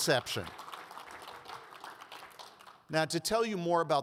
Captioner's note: audience applauds